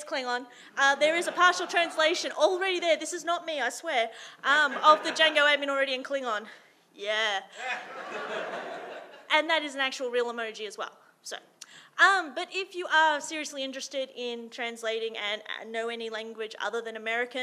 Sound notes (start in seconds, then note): 7.6 audience laughing